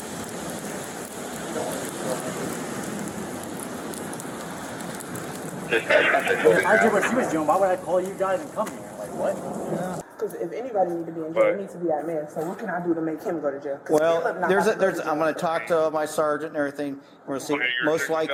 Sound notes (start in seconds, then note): 5.6 radio chatter